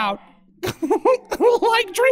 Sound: silly giggle

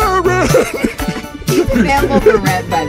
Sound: laughing

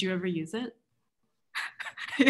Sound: mutual laughter

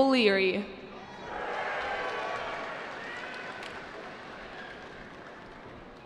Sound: cheering

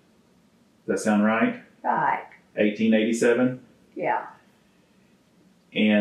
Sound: laughs

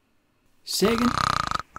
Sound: snore... whistle

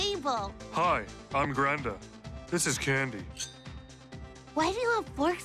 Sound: very low voice

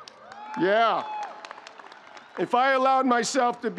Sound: audience cheering

